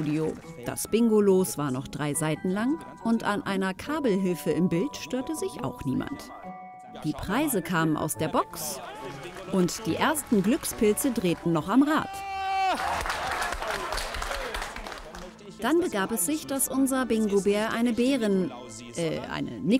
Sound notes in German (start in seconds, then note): 14.3 Applaus, Jubel